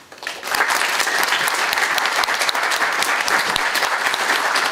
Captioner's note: audience applauding